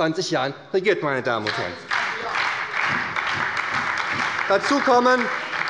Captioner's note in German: Beifall bei der SPD